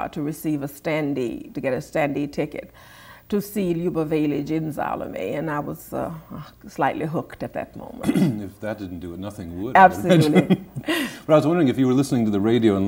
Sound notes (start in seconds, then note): 9.9 chuckles